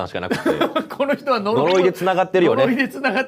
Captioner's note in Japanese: 笑い